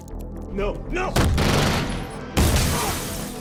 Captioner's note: gunshot fires; glass shatters